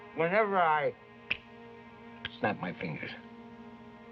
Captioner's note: snaps fingers